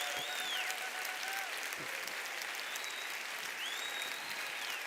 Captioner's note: applause